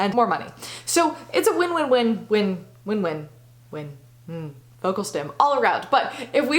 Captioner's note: vocal stim